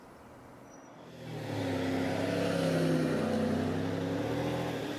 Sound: car engines revving

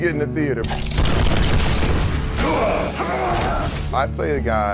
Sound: gunshots and grunting

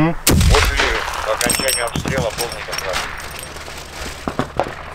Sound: radio exchange

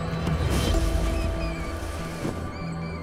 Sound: mouse squeals

